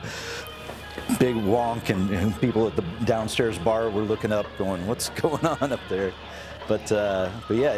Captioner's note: chuckle